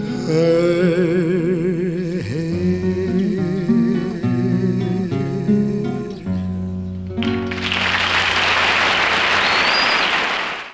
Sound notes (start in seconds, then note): 7.2 audience clapping